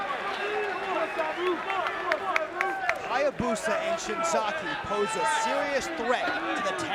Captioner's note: applause